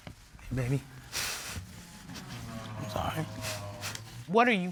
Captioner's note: sobbing